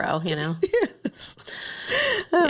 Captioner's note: laughs